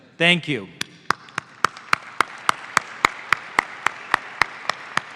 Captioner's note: audience applauds